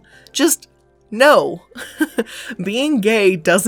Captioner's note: laughing